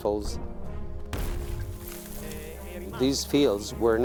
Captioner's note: dramatic music; explosion roaring